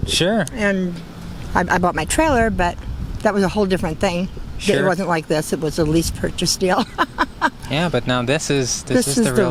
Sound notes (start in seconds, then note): 6.7 laughing